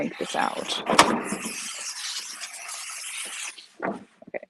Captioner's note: shelf clanks